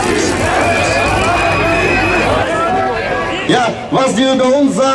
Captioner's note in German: Lautsprecher Durchsage: Demo Redner